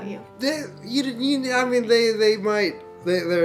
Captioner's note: stammering